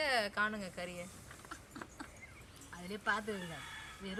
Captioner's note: laughter